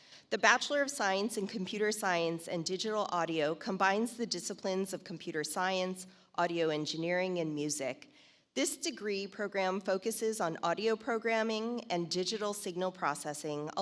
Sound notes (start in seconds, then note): none